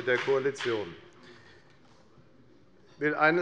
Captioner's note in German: Beifall bei der FDP